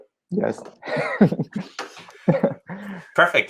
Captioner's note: laughing